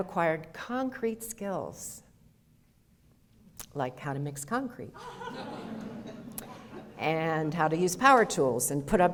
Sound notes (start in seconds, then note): 5.0 audience laughter